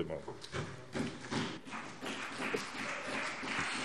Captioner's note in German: Beifall BÜNDNIS 90/DIE GRÜNEN und CDU